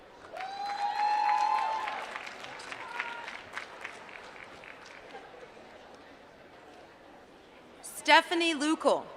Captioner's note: applause